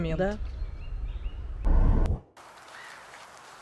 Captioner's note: applause